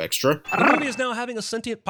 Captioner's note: growl